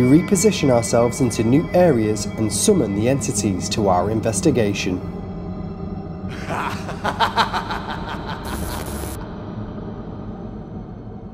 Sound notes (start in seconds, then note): 6.3 evil laugh